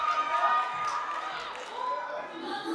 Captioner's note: applause